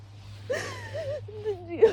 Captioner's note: sobs